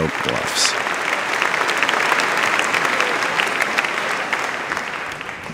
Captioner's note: audience applauding